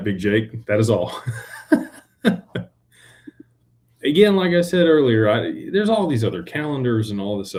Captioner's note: laughter